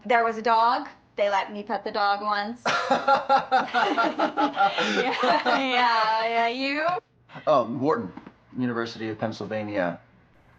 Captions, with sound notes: There was a dog. They let me pet the dog once. (interviewer laughing) - (laughing) Yeah, yeah, you? - Wharton, University of Pennsylvania.